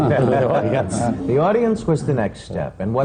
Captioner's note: laughter